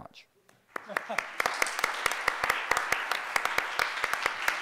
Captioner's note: crowd applauding